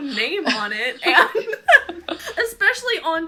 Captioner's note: laughter